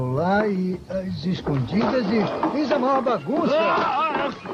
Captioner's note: screams